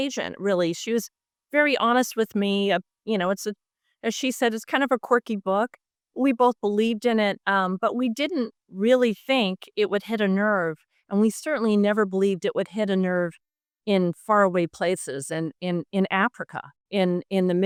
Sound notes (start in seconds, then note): none